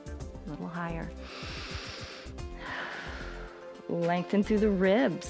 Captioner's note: inhales and exhales